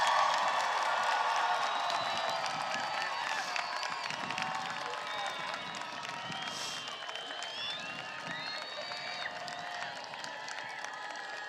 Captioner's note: applause